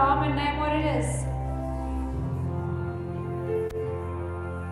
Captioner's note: mutters